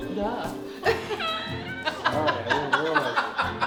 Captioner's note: laughing